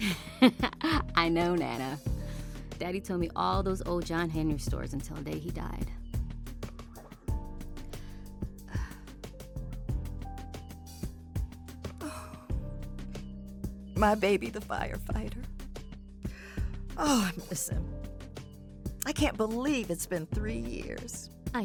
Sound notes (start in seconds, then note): 0.2 Dawn laughs; 8.7 Dawn sighs; 12.0 Nana sighs; 16.4 sniffles